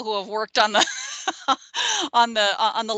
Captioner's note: laughing